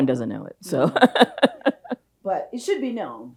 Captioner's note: chuckles